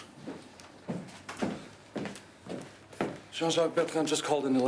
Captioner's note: footsteps approaching